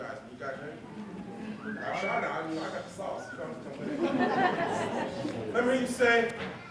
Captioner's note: laughter